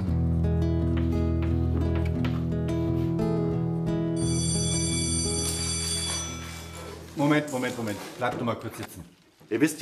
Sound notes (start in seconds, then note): 4.2 school bell ringing